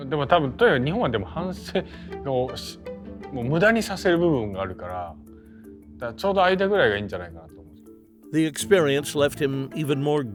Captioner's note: foreign language